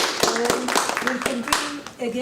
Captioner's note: applause